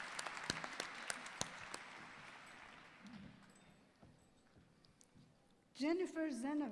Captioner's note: applause